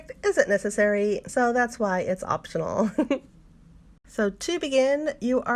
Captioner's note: giggles